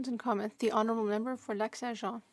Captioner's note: speaking French